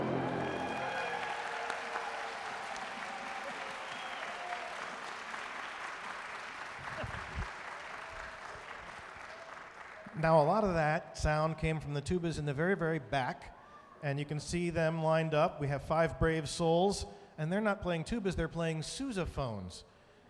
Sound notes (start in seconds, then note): 0.0 audience cheering and applauding